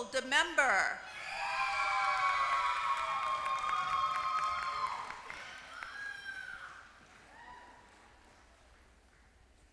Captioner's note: applause